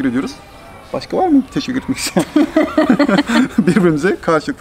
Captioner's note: laughter